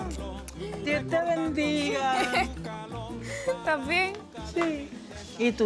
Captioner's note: speaking Spanish